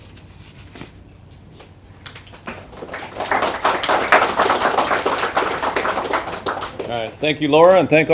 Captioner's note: applause